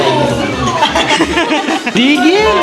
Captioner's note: laughs